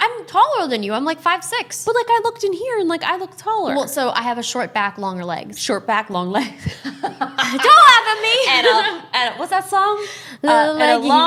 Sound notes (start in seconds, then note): 6.6 laughter